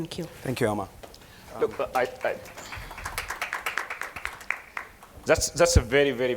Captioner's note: applause